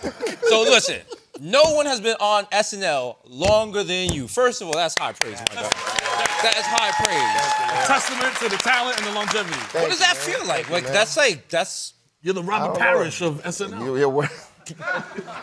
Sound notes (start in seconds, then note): 4.9 applause; 5.6 cheering